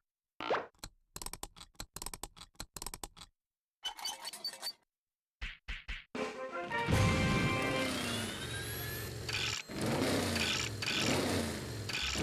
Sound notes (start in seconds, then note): 1.1 whirring; 7.0 engines revving